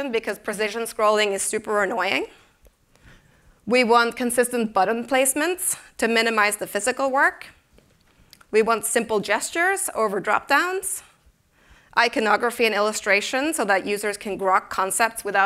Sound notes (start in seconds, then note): none